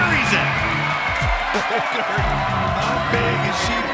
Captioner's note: cheering